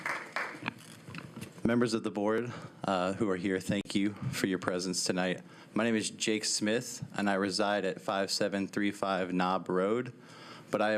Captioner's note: applause